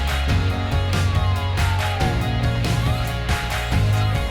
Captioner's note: police siren